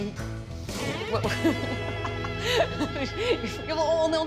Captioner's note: laughing